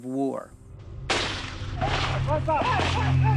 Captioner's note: gunfire; yelling